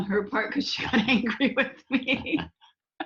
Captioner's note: laughs